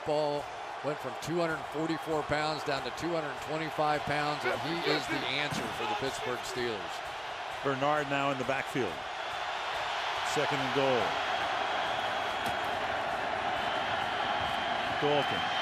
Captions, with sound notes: He's all football, went from 244 pounds down to 225 pounds. And he is the answer for the Pittsburgh Steelers. Bernard now in the backfield. [cheering] Second and goal.